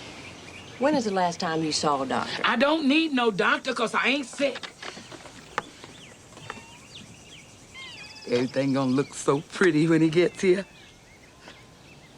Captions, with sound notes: When is the last time you saw a doctor? - I don't need no doctor because I ain't sick. (cat mewing) (birds chirping) Everything gone look so pretty when he gets here.